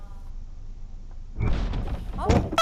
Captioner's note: bang